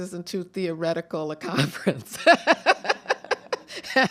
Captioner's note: chuckles